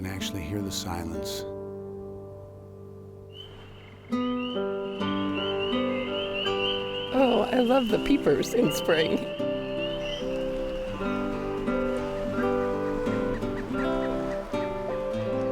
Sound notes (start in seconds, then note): 3.9 frogs calling